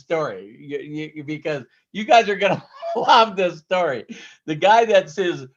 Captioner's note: laughing